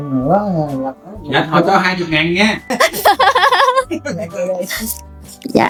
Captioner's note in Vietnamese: Tiếng cười